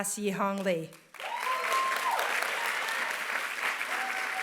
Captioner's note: applause